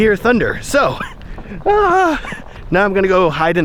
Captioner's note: exclaims